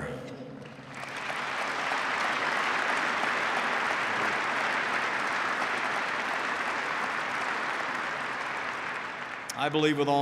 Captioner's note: applause